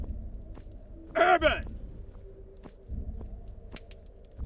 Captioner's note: spurs jangling